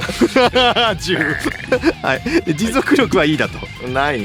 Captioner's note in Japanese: 笑い